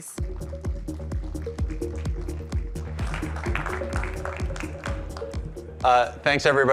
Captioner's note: upbeat music; audience applauding